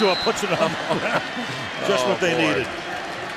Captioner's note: laughs